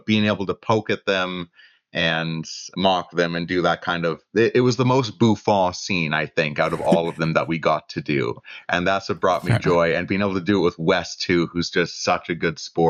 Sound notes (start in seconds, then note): 6.6 laughter